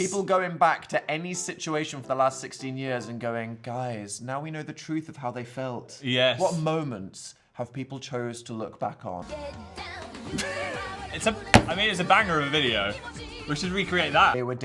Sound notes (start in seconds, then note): 10.3 both laughing